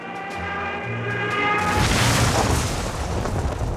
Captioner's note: explosion